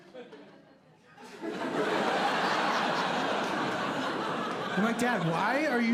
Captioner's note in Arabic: ضحك